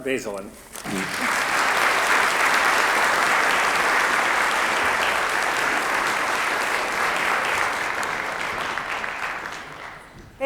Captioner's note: applause